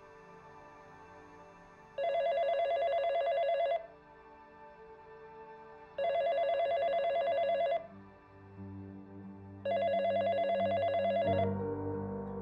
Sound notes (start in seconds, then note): 2.0 phone ringing